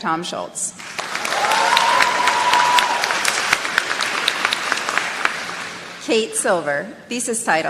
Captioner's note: applause